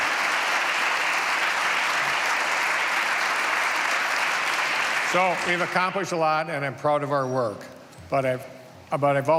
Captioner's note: applause